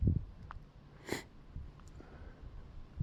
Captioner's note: sniff